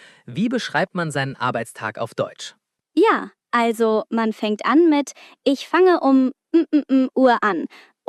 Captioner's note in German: räuspern